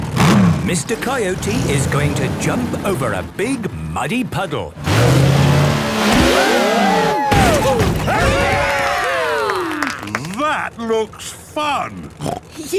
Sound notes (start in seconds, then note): 6.4 crowd; 8.6 applause